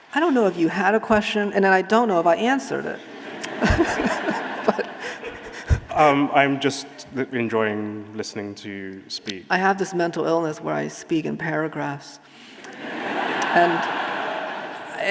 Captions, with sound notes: I don't know if you had a question, and I don't know if I answered it. (audience laughing) I'm just enjoying listening to you speak. I have this mental illness where I speak in paragraphs. (audience laughing)